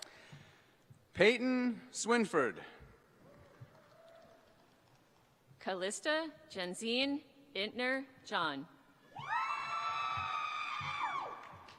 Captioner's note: applause